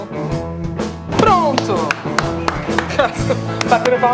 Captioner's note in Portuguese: palmas